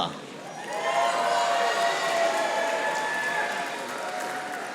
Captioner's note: audience applauding